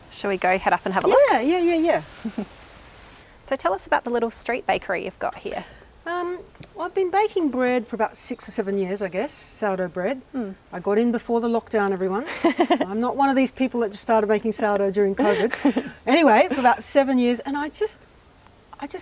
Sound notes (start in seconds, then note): 2.1 giggles; 12.3 laughs